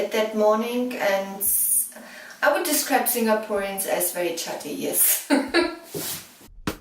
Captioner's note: giggle